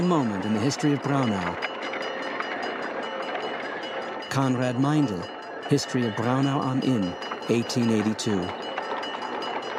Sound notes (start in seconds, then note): 2.1 bell dings; 8.4 carriage clattering; 9.6 bell dings